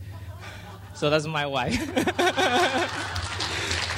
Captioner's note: laughs; clapping